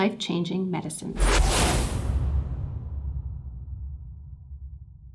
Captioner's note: whooshing sound